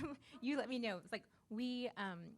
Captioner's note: laughs